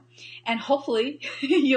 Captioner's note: laughs